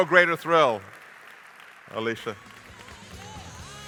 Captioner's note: audience applauding; upbeat music